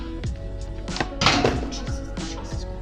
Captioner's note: clang